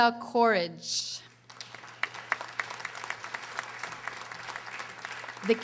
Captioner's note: audience applauding